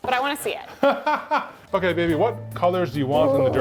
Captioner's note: laughs